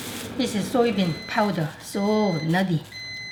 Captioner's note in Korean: 전자렌지 삐 소리